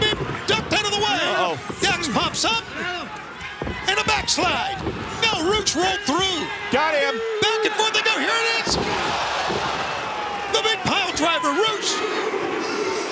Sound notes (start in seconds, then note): 9.2 crowd